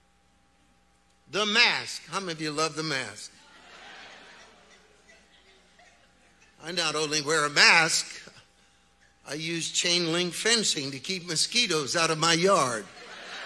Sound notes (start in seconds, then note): 3.3 audience chattering; 12.6 audience laughs